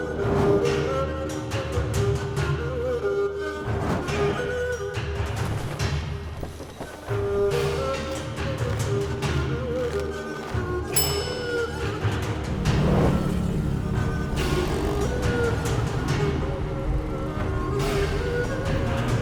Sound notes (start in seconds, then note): 10.9 dinging; 13.6 vehicles passing